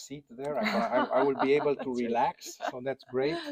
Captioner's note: woman laughs